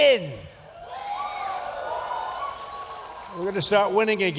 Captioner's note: cheers